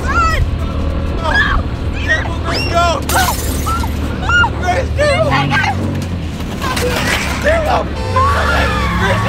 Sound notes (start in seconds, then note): 1.3 screaming; 3.0 glass smashing; 7.7 horn beeping